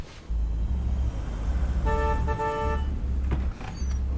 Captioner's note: horn honks